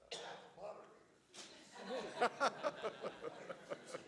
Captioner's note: laughing